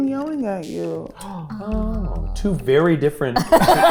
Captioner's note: gasps; group laughing